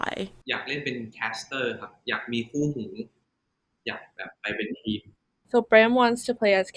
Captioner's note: answering in Thai